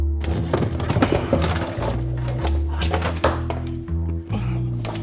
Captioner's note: moderate music; food processor clatters